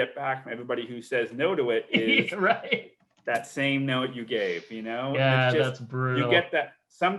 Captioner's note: laughs